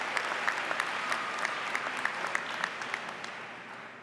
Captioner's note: applause